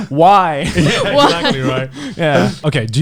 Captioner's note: laughs